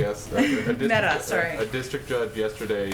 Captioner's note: laughs